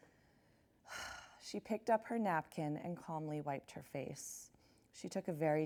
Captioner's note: sighs